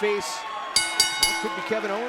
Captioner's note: bell ringing